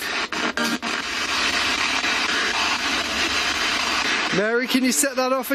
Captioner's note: static crackling